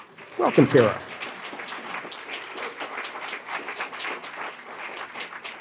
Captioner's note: audience applauding